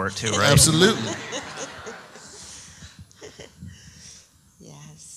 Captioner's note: laughs